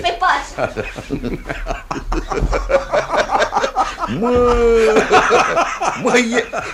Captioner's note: both laugh heartily